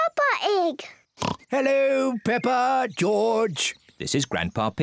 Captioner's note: oinks